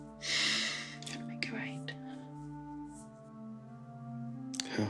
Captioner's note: Michael sighs